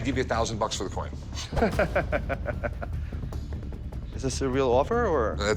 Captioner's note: laughs